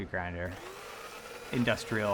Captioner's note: coffee grinder whirring